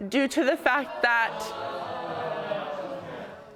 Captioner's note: audience exclaiming